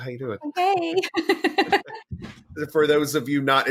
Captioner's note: laughing